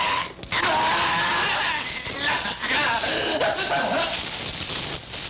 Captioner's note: screaming